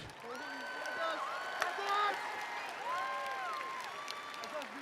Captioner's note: attendees applauding